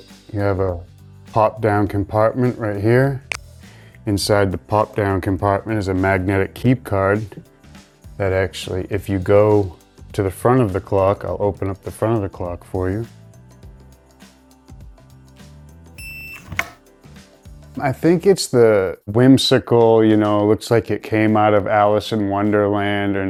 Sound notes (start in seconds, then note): 13.1 gentle upbeat music; 16.0 lock beeping and clicks